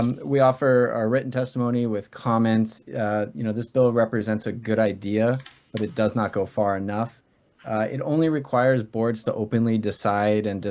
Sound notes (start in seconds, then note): none